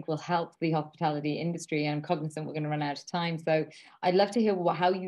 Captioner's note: none